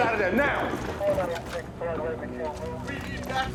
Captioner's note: voice over the radio